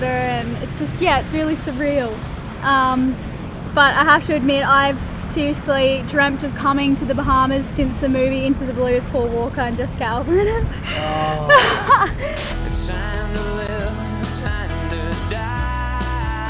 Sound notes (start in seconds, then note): 10.4 laughs